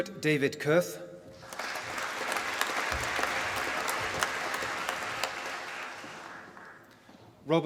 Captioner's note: applause